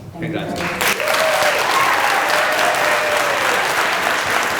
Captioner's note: applause